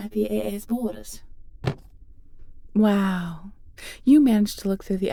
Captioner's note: scarastic tone